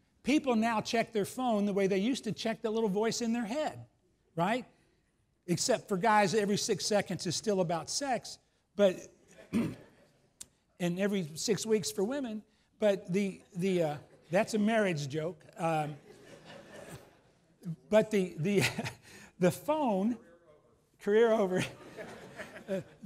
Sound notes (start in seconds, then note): 8.9 laughs